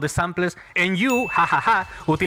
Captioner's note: ha Ha Ha